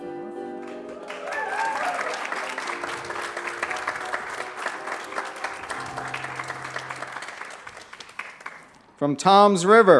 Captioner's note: applause